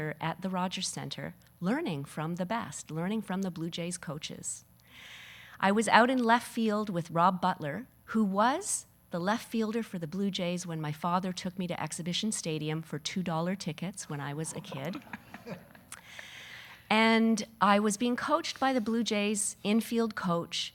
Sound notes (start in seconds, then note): 14.5 audience laughing